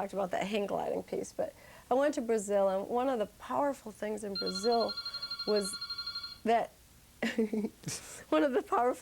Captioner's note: phone ringing